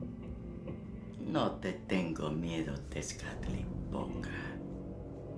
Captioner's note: ominous music plays; Spanish